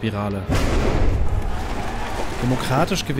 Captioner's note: cracking noises, excited shouts